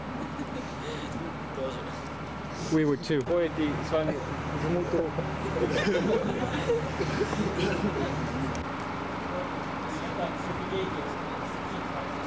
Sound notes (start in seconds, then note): 3.2 russian speech; 4.8 laughter